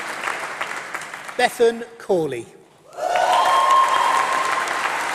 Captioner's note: applause